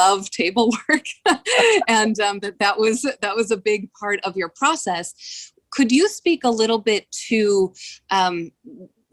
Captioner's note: laughter